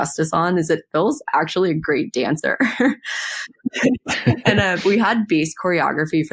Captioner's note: both laugh